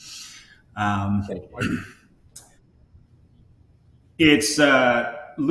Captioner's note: throat clearing